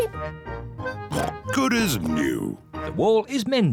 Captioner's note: oinks